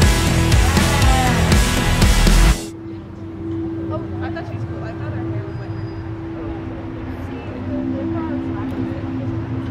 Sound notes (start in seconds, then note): 2.8 peaceful music; 5.1 students chatting